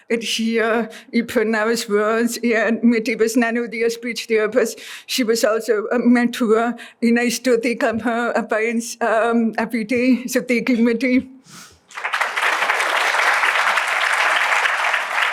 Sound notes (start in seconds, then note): 11.8 applause